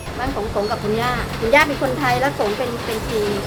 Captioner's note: Gong